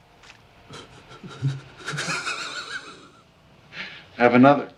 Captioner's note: laughing